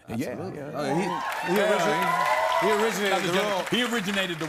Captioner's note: cheers and applause